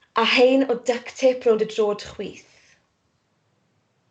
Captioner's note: none